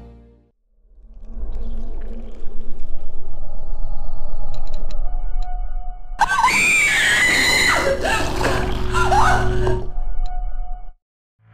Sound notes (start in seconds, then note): 6.2 scream